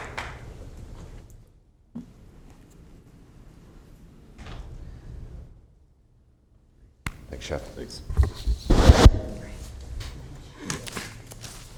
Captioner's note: applauding